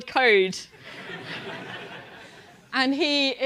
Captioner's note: laugh